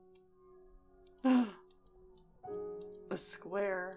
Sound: gasps

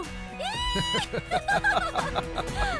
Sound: screaming; laughs

